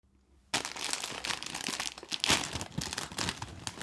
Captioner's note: crinkling packet